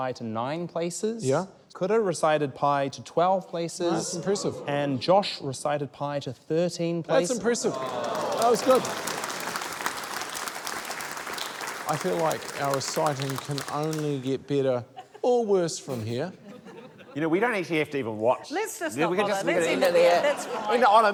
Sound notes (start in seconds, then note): 10.4 applause